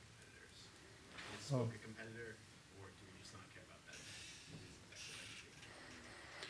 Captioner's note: audio distorts